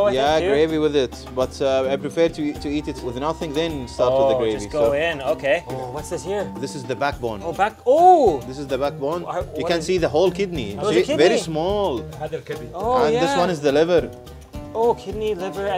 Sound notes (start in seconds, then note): 7.8 exclaims; 12.6 speaks foreign language